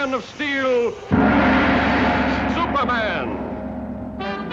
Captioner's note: gong booms; dramatic music